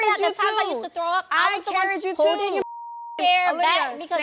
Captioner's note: beep